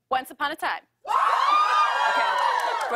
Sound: cheers and applause

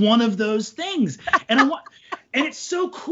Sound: laughs

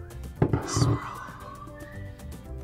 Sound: whispers

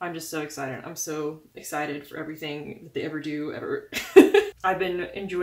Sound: laugh

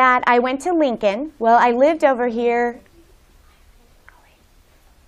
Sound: whispers

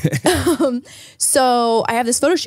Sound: laughs

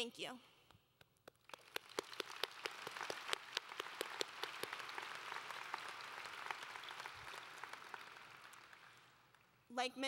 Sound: applause

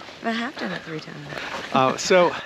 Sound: laughing happily

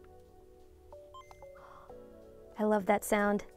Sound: Game Boy beeping

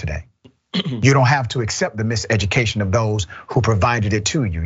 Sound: cough

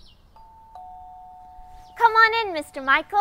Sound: doorbell rings

